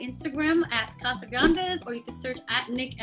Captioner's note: air whooshing